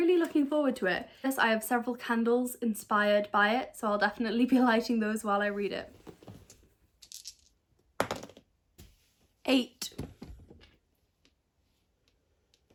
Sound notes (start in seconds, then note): 7.9 sound of dice rolling